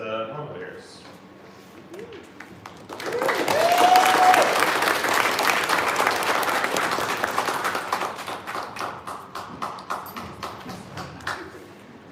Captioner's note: applause